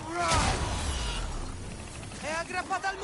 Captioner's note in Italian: urlo